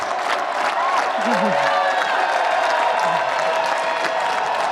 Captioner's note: applause